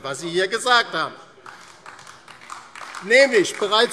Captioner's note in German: Beifall DIE LINKE